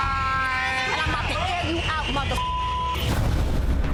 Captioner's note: beep